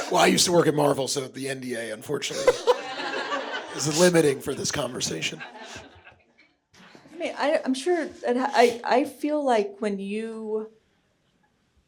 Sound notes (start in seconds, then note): 2.1 audience laughing